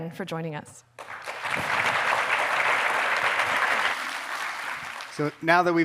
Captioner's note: audience applauding